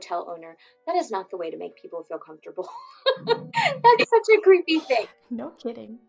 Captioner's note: laughs